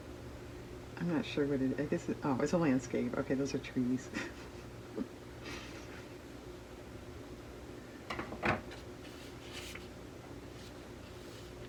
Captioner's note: laughs